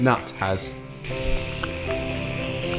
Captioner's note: festive rasping noises